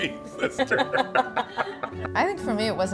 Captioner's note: laughs